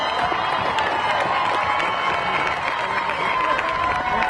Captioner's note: crowd cheering